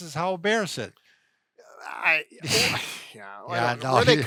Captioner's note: both scoff